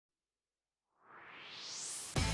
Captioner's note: swoosh